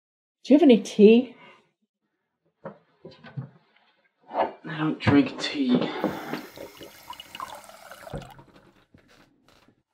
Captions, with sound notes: Do you have any tea? - I don't drink tea. [SINK WATER RUNS]